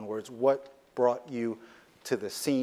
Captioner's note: none